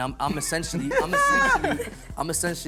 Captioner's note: laughter